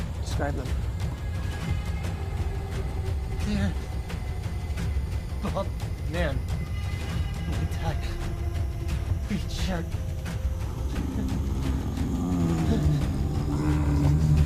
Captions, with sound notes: - Describe him. (intense music) - Beard. Bald man. With a tie. Green shirt. (Jonathan growling)